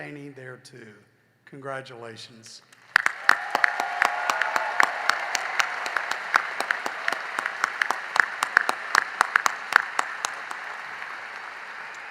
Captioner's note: cheering and applause